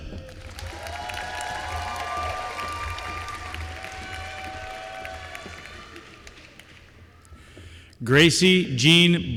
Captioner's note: applause